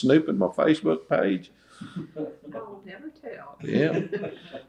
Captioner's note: laughter